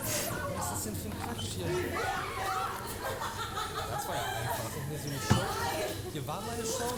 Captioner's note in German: gelächter